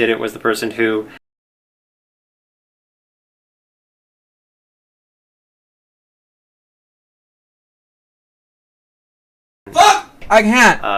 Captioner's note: muted